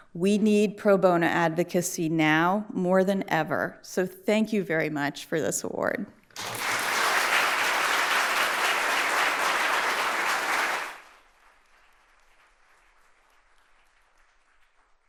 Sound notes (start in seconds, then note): 6.3 audience applauding